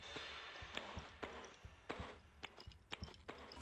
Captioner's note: noises of someone walking